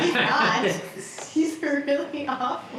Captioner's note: laughs